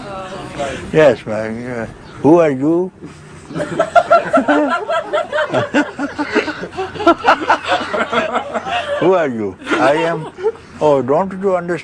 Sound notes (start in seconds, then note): 3.5 laughter